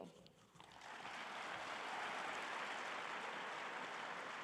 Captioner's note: audience applauding